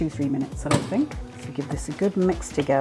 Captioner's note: microwave door slams